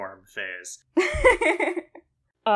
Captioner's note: laughs